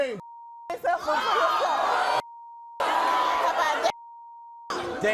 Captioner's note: audience boos